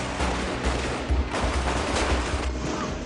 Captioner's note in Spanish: Disparos